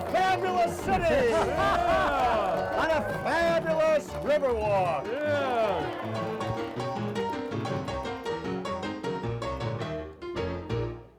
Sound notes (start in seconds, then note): 1.6 laughing and cheering; 6.2 cheering; 6.2 piano music continues